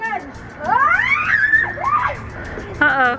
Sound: screaming

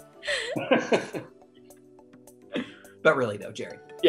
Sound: Miranda laughs; laughs

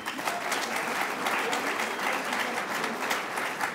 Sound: applause

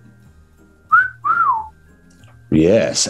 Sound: wolf whistles

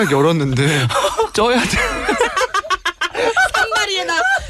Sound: laughs

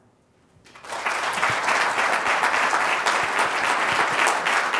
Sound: audience applauding

